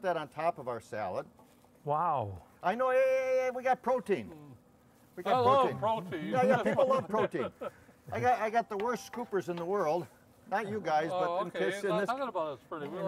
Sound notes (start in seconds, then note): 5.4 laughing; 8.8 spoons tapping